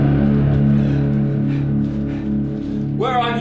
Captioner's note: panting